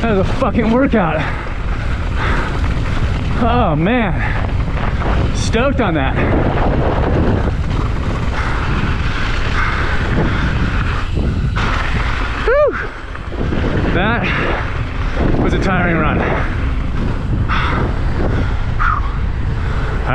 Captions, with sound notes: That was a fuckin' workout. (mountain biker breathes heavily) Oh, man! Stoked on that! (tires rumbling) Whew! That was a tiring run. Whew!